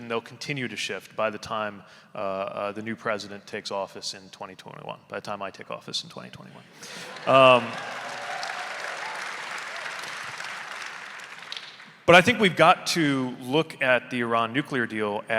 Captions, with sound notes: and they'll continue to shift by the time the new president takes office in 2021, by the time I take office in 2021. (audience cheering) (audience applauding) But I think we've got to look at the Iran nuclear deal